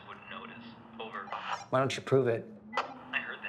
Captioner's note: radio bleeping